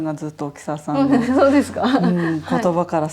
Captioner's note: laughs